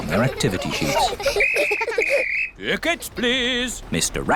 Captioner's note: blows whistle